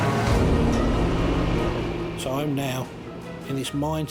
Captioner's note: lifeboat engine racing out